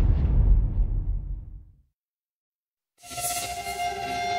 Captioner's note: none